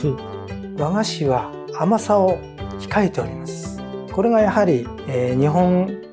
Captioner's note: speaking in foreign language